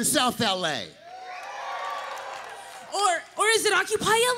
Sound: crowd cheers

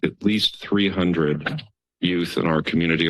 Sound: cough sounds

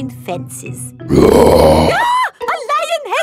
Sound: roars; screams

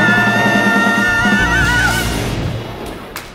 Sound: electrical buzz

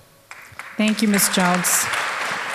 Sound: applause

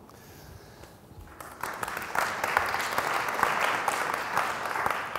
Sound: audience applauding

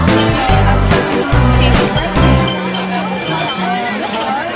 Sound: indistinct chatter

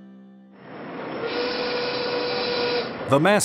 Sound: whistle tooting

